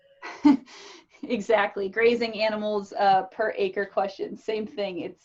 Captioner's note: chuckles